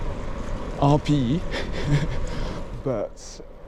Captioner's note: chuckles in French